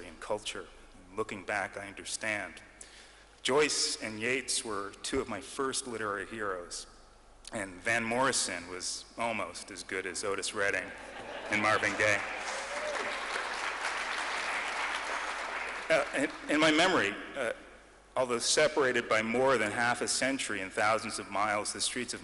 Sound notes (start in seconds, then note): 14.8 clapping